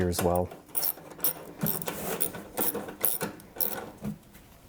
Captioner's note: wrench clicking